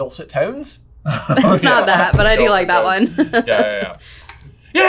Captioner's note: laughing